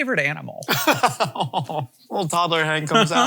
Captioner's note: laughing